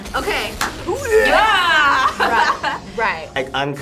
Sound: both yell; laughs

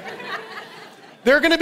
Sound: congregation laughing

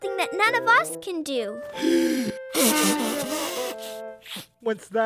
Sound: blowing of nose

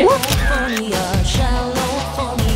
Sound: laughs; camera clicking

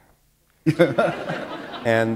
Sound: laughter

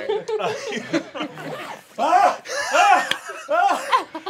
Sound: laughter; screaming

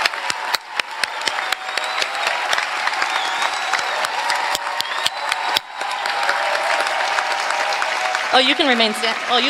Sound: applause

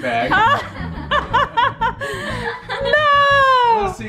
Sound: family laughs

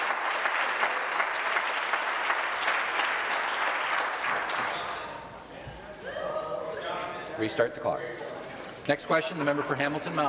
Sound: applause

